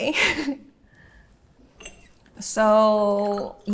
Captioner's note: laughing